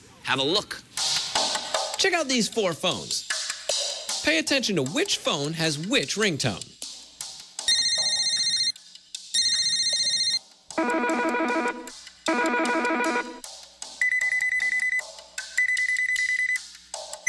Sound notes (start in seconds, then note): 7.2 ring; 10.2 electronic bleeping; 14.2 high-pitched bleeping